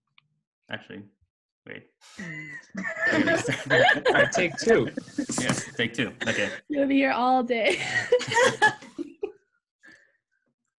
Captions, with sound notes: Actually, wait. (all laugh) - Take two. - Yeah, take two, okay. - We'll be here all day. (laughs)